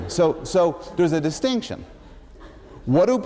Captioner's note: laughter